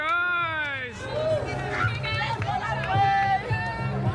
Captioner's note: cheering